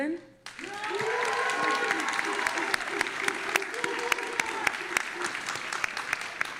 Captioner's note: audience applauding and cheering